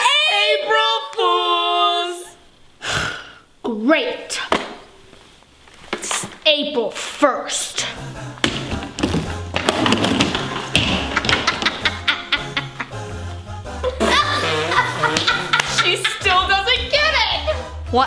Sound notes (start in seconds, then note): 2.8 sighs; 8.3 stomping; 11.8 laughing